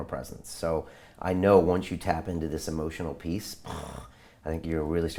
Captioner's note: sighs